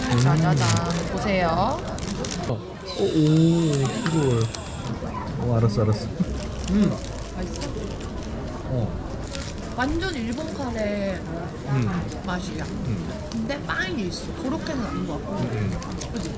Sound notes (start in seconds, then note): 2.9 sighing